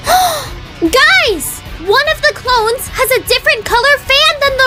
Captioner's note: gasps